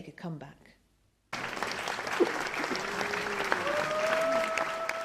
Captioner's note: audience cheers